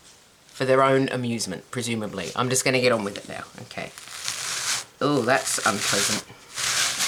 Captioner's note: scraping noise